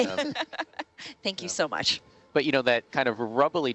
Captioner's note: laughs